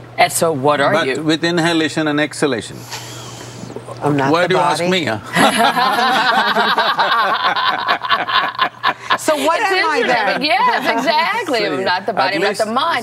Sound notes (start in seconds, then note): 5.3 laughter